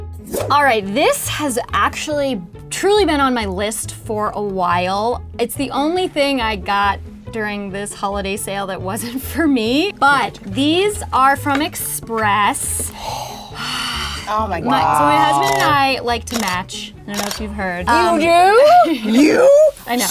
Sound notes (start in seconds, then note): 13.0 sighs